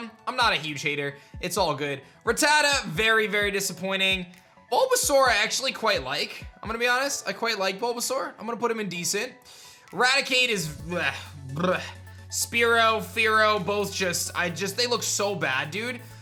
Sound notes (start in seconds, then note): 10.7 disgusted sound